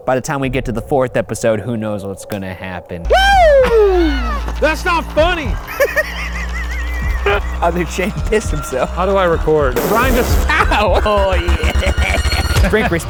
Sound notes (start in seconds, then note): 3.0 screaming; 5.6 laughing